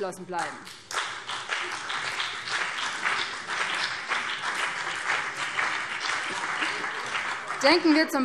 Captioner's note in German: Beifall